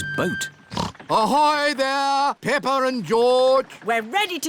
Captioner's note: snorts